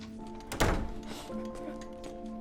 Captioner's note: sniffles